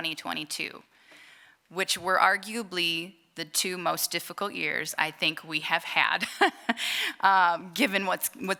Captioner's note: laughter